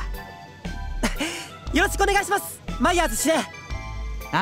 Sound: chuckle

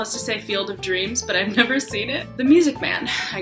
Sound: laughs

